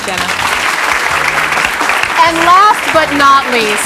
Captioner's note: audience clapping